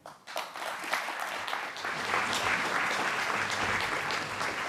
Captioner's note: applause